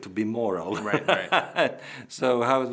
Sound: laughing

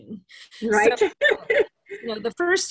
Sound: laughs

